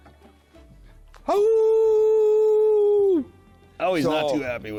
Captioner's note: howls